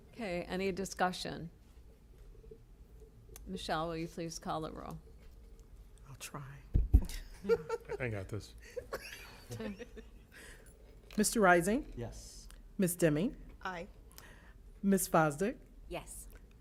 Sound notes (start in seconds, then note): 8.6 chuckles